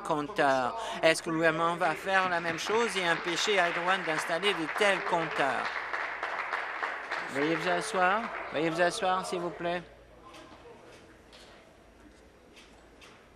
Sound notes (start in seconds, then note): 5.6 applause